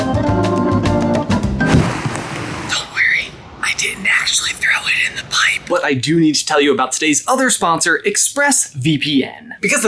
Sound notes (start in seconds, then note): 1.7 bottle clatters